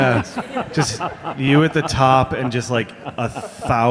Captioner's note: all laughing